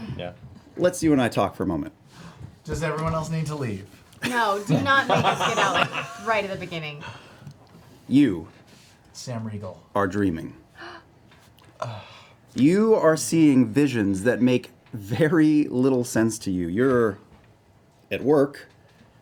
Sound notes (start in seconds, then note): 2.9 gasps